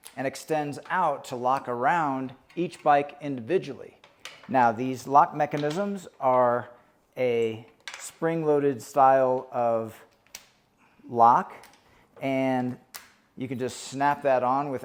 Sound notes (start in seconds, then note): 5.5 cable clinking; 10.1 lock clicking